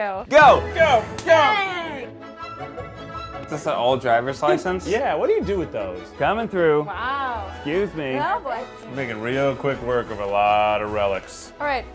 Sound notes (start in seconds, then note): 4.4 laughs